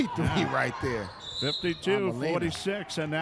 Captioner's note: referee whistling